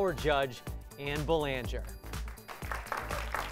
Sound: applause

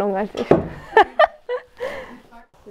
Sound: laughter

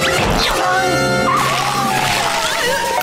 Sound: siren blaring

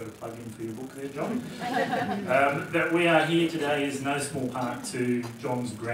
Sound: laugh

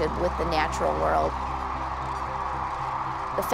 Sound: crane song

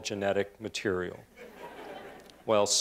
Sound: laughter

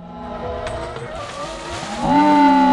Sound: shouts echo; water splashes; spectators cheer and applaud

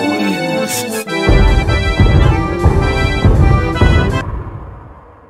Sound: big chungus footstep

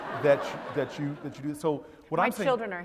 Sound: laugh

